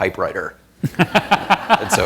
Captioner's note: laughter